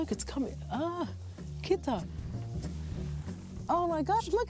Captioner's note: speaking in greek